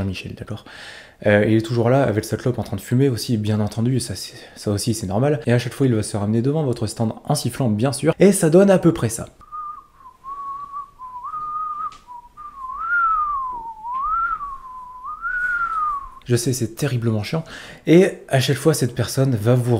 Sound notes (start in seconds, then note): 9.4 whistling